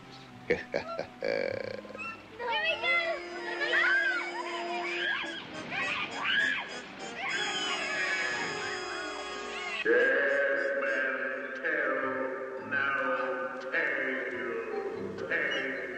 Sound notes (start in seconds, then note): 0.4 chuckling; 4.3 all screaming; 9.7 man echoing